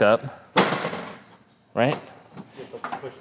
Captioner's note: grill clatters